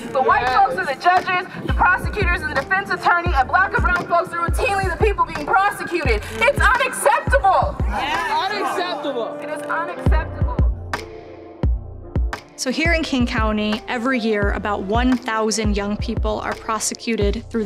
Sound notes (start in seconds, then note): 3.9 faintly speaking; 7.6 crowd